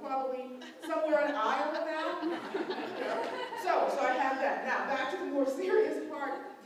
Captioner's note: laughter